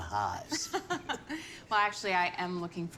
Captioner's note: Cara laughs